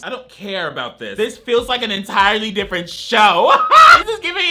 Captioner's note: laughs